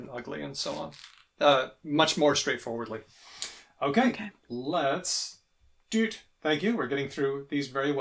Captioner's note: beeps